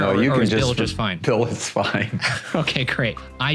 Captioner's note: laughing; laughing